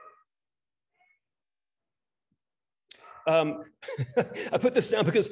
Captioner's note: laughter